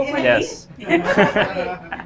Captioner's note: laughs